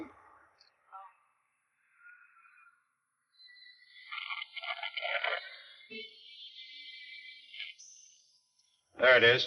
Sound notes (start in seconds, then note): 3.6 radio crackles; 7.8 radio beeps